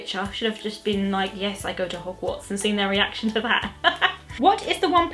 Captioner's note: laughs